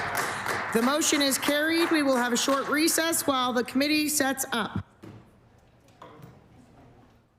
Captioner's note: applause